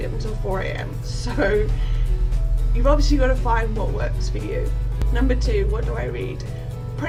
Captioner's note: laughs